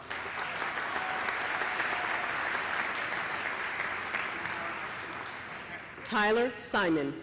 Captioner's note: applause